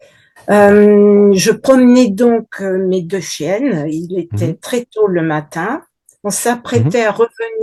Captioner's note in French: raclement de gorge